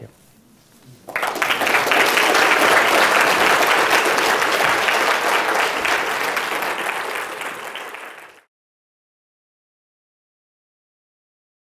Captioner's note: applause